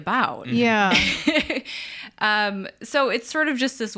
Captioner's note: laughs